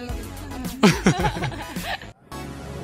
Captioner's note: laughing